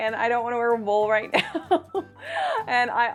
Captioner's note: laughs